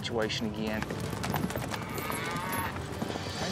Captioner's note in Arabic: ضربات حوافر، خوار